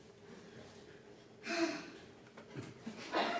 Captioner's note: sighs